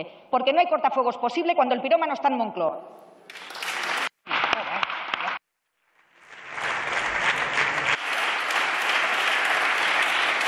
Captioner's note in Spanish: Aplausos